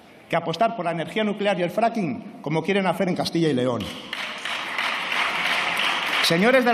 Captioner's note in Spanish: Aplausos